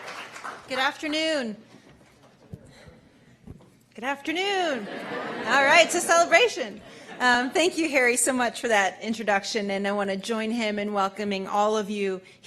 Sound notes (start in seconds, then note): 0.0 applause; 4.8 laughter